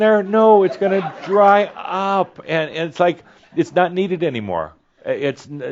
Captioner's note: some chuckles